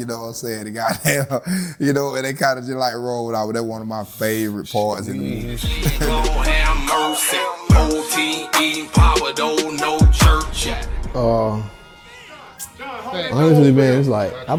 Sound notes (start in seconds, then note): 1.4 laughs; 5.0 laughing; 6.3 rap music